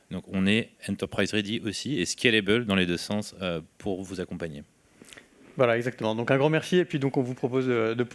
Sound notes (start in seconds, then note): 6.2 speaking french